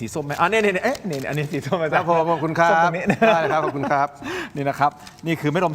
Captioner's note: laughs